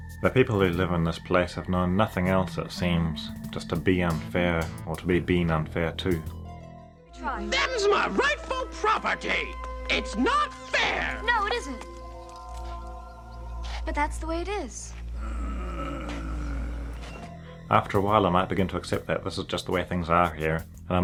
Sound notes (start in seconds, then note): 14.9 offscreen groaning